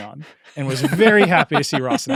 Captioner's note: laugh